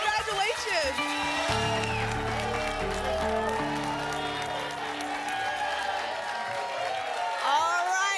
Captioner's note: applause and cheering